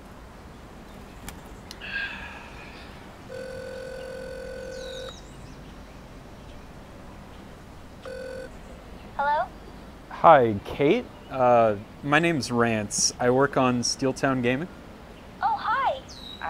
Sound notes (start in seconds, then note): 3.2 phone ringing